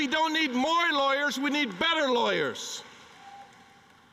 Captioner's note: cheering and applause